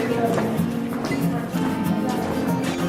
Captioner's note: footsteps